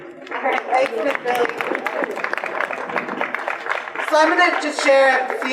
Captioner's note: audience applause